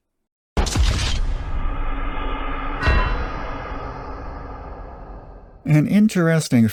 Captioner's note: GTA "Wasted" sound effect